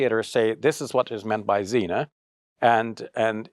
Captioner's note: speaks Arabic